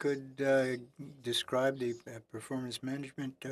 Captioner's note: speaking French